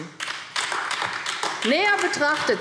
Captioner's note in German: Beifall AfD